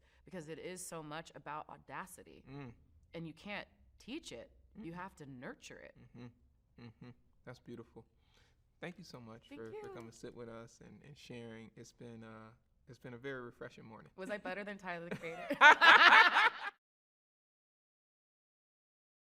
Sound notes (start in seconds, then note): 15.2 both laugh